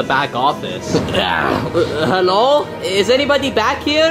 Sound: groaning

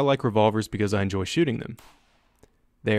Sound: gunfire

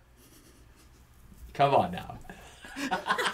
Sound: Finebros breaks into laughter; Finebros snickers

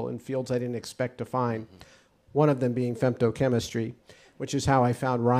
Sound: none

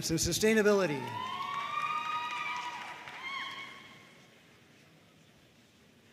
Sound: audience cheering and applauding

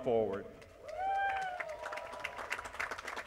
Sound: applause

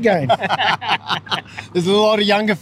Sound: laughing

